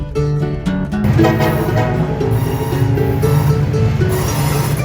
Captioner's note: train horn blows